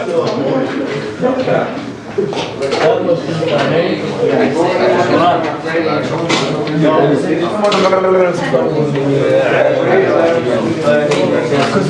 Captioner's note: indistinct chatter